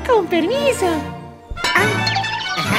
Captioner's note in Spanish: golpe